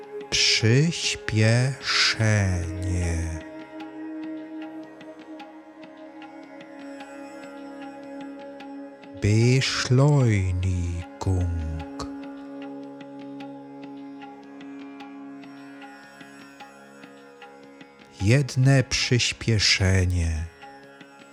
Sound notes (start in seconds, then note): 10.9 german